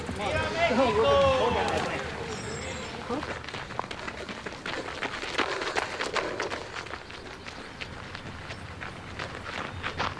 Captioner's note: cheering; applause